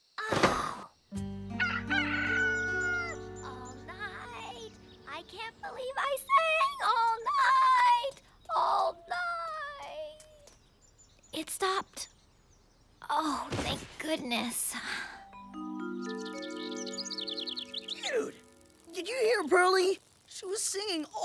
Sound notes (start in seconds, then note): 1.5 cock crowing; 2.5 singing hoarsely